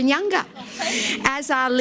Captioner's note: laughs